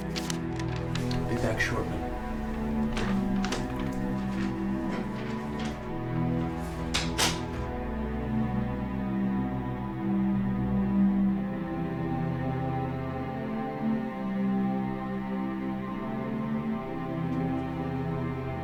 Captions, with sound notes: Be back shortly. [shutting door, lock]